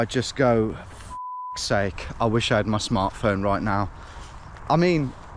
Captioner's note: beep